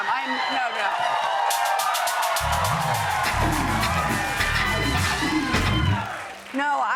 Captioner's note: cheers and applause